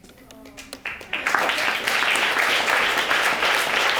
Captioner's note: audience applauding